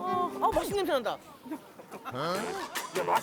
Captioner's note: sniffing